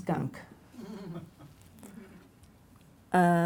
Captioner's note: laughing